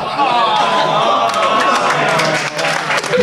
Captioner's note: audience applauding; audience groaning; audience applauding